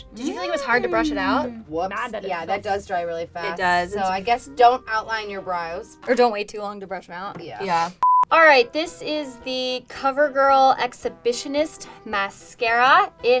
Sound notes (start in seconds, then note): 8.0 beep